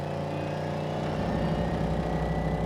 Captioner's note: engine revving